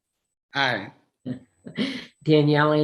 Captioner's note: laughs